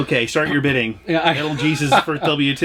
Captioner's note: laughs